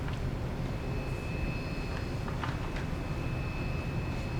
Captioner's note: none